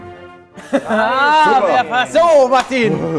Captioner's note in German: Lachen